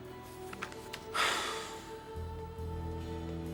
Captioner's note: sighs